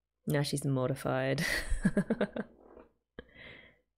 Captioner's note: laughs